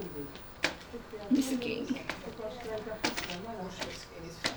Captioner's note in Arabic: ثرثرة الناس